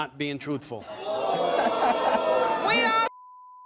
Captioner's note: booing